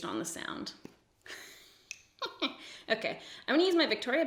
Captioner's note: giggles evilly